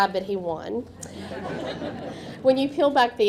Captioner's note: audience laughing